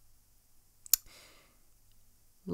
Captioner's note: clicks tongue